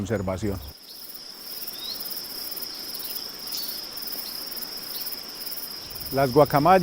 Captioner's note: sonidos silvestres